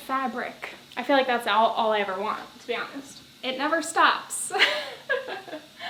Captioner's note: laughs